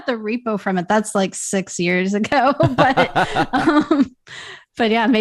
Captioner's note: laughter